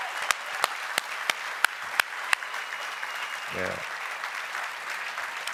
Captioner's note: applause